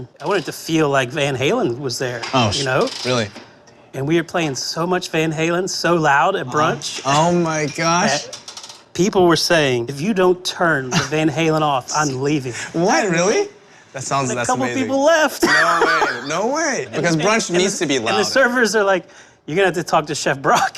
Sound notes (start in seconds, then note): 12.9 laughs